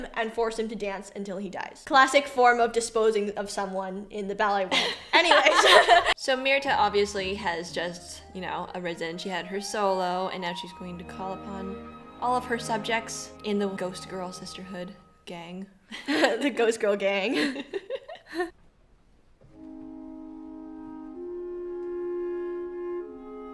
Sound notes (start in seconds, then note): 4.8 laughs; 17.3 chuckles